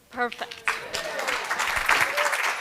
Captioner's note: applause